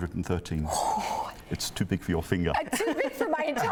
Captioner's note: gasps